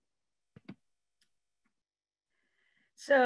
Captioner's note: pause